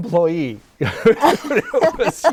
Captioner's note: laughing